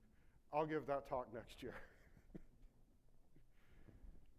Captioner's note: laughs